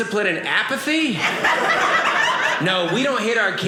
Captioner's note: audience laughing